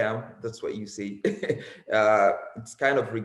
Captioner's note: chuckles